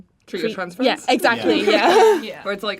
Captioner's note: the cast laugh